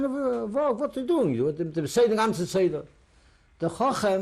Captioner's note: non-english